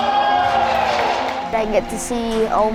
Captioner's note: players yell